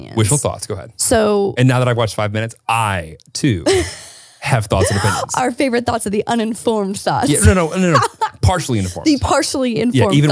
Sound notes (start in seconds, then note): 7.3 laughs